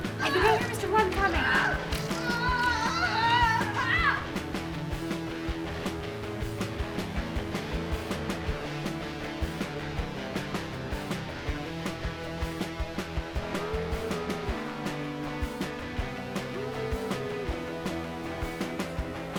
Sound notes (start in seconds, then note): 1.0 Ezra screaming; 2.4 lively music